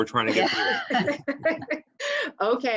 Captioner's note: laughs